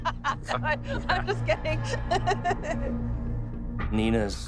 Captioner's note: laughs